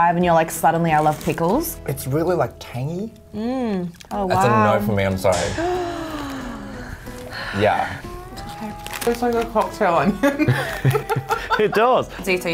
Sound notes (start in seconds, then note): 5.6 gasp; 10.0 laughs